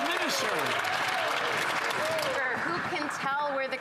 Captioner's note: some Applause